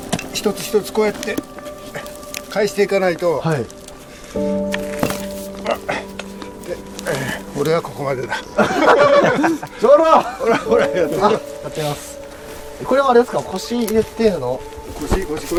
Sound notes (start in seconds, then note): 8.3 laughter